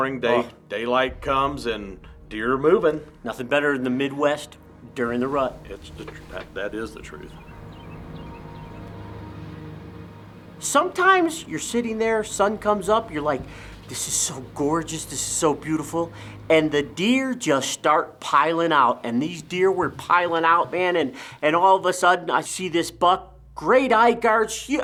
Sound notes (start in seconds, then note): 7.3 birds chirping; 7.3 suspenseful music